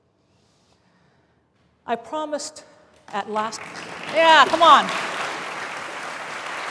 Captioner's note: applause